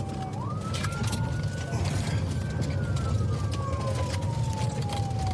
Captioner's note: siren wailing